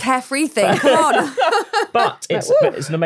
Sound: all laughing

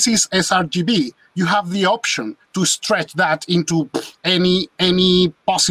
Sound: clucks

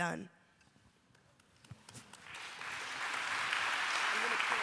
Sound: applause

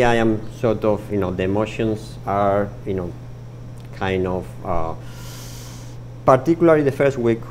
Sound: inhales sharply

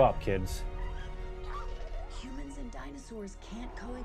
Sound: baby raptor trilling

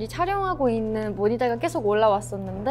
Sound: none

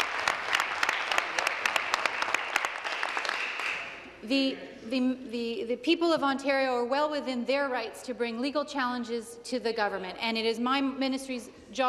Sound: applause

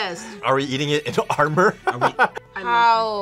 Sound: laughs

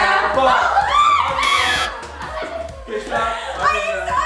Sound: screaming; buzz

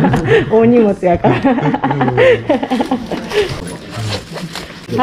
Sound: laughs

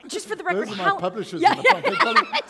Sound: laughter

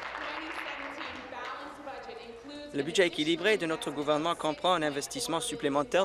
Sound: applause

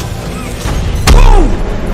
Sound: stomp

